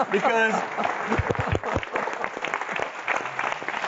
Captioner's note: clapping